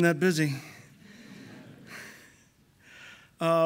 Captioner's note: audience laughing